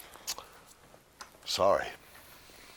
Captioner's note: smacks lips